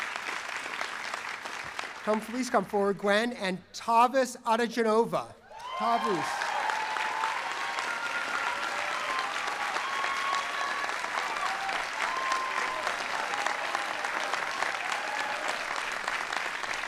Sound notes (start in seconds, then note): 5.4 cheering and applause